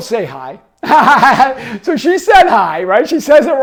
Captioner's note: laughing